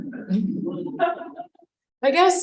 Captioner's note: chuckling